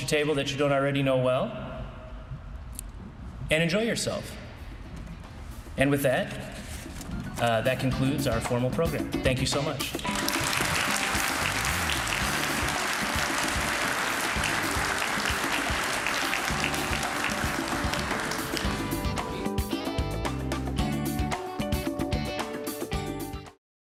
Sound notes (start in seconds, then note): 10.0 applause